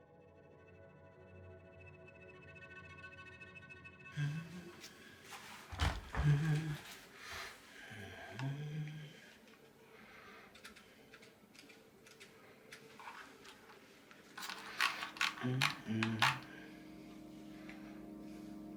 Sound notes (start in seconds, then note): 0.3 gentle music continues; 4.2 humming; 14.5 camera knob clicking